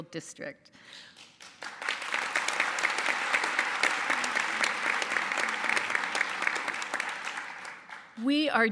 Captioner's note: applause